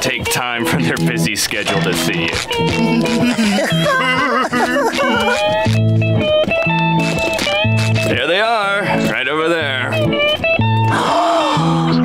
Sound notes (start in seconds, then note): 2.4 giggling; 10.9 gasps